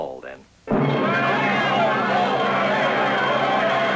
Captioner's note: yelling